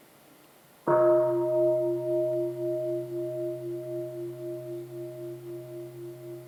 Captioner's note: sound of the gong